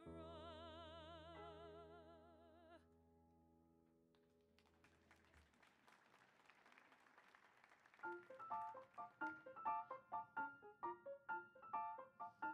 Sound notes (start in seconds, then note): 4.6 audience applauding; 8.1 bright music